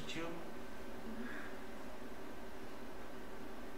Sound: laughs

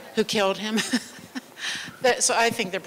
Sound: laughter

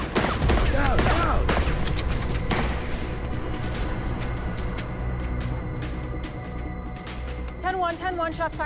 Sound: gunshots

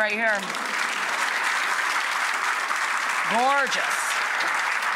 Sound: clapping

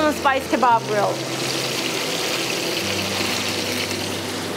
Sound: meat frying

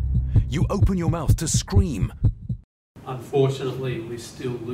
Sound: heartbeat stops

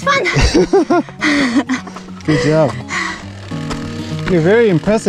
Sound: laughs

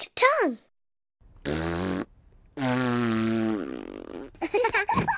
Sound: both blow a raspberry; laughter

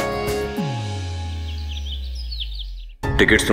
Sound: birds chirping

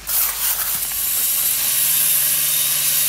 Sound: hiss

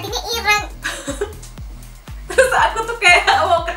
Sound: laughing

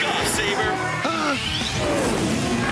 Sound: gasps

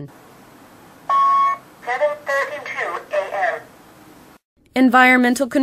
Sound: device speaking

